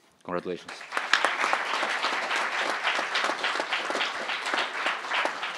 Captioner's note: crowd applauding